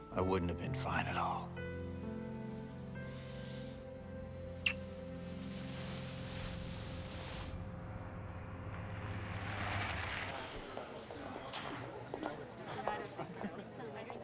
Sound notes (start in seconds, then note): 10.0 people chattering